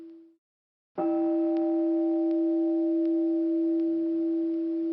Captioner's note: meditation chime